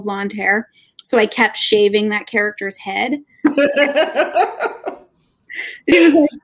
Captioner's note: laughing